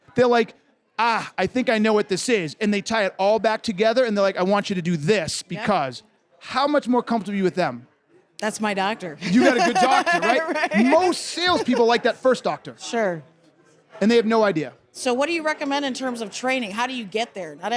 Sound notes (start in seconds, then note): 9.2 laughs